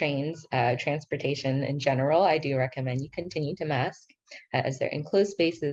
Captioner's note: speaking in foreign language